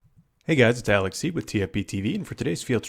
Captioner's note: voiceover